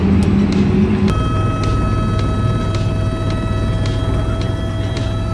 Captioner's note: helicopter propellor sounds